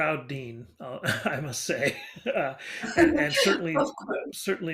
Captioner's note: laughing